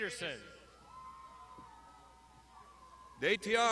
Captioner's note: crowd shouting